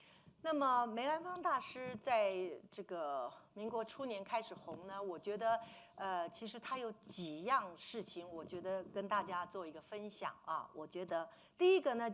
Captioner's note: speaking Mandarin